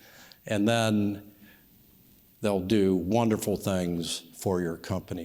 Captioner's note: none